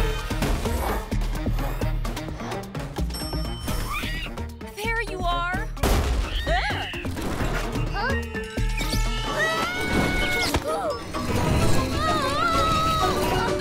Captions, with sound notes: - (Soft cry) - There you are! Ahh! Oof! Woah!